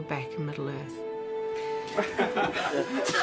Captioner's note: all laughing